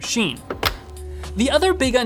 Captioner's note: click sound